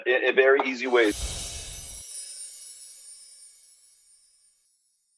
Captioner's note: bell jingle